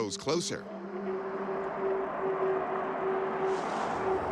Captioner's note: eerie howl